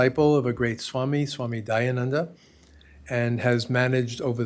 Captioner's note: hindi